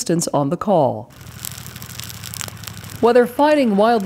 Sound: fire crackling

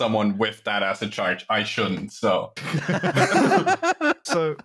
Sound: laughter

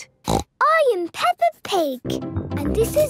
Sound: snorts

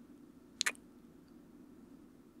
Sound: kiss

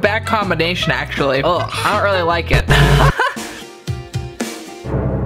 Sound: laughing

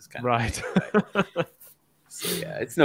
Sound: laughs

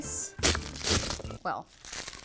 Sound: garlic crunching

